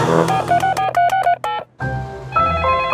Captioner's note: beeping; phone ringing